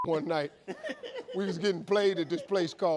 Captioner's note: man laughing